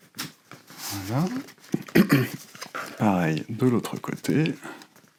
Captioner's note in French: raclement de gorge